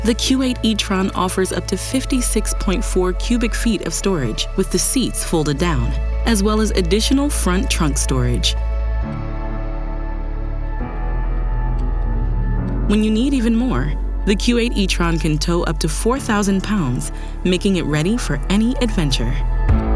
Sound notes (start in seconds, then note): 8.9 dramatic music; 12.4 engine revving; 19.7 upbeat music